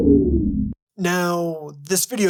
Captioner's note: power down sound